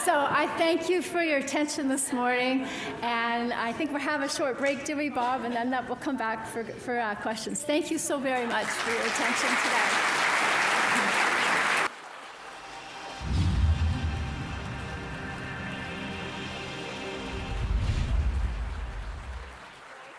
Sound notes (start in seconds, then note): 8.4 audience applauding; 13.2 upbeat music